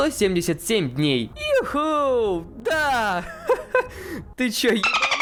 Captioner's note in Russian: смех